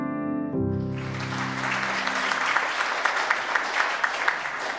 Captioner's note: audience claps